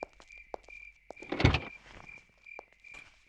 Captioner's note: car Door Opens